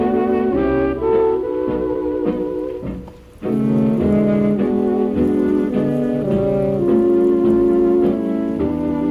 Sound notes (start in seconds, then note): 2.2 sizzle and sizzle